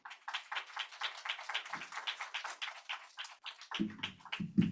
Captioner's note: applause